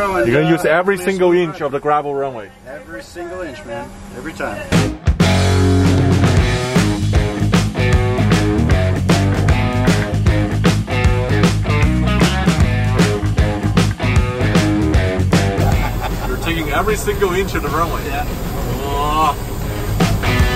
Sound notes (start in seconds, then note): 5.4 heavy rock music; 15.5 laughs; 19.5 rock music